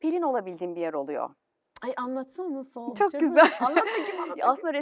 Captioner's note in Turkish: kahkaha